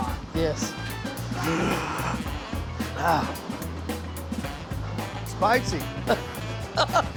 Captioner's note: gasps; chef chuckles